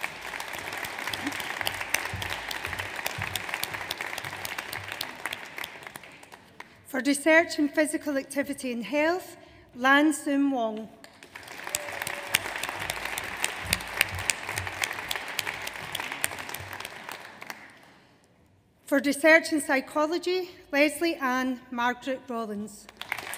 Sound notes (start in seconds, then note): 0.0 audience applauds; 11.1 audience applauds